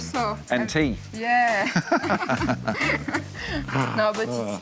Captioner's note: laughs